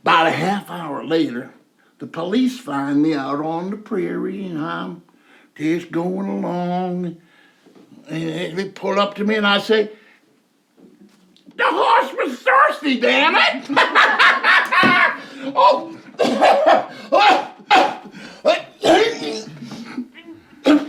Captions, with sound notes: 'Bout a half hour later, the police find me out on the prairie and I'm just going along. And he pulled up to me and I say, "The horse was thirsty, damn it!" (Jake laughs) (Jake coughing)